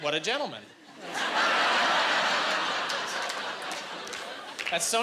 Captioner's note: laughing